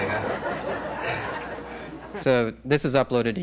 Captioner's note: laugheter